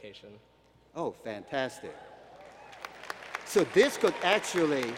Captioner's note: applause